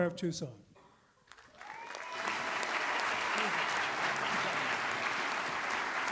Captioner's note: audience applauds and cheers